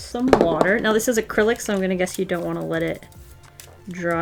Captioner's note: none